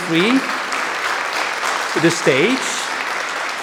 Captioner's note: audience applauding